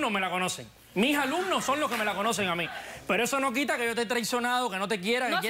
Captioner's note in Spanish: Risas